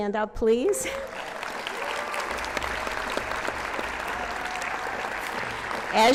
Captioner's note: applause